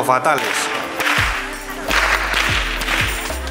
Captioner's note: edit: The cracking of the whip sounds VERY loud